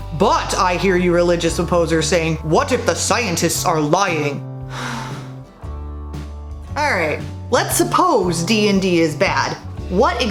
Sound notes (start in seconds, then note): 4.6 sad sigh